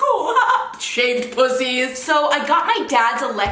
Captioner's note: laughs